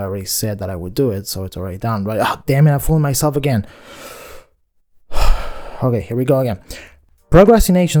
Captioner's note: deep breath